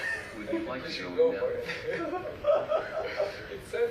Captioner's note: man laughs